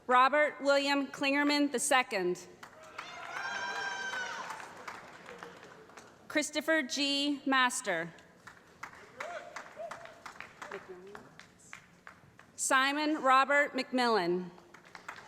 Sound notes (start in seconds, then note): 2.9 audience shouting; 8.4 applause; 14.5 applause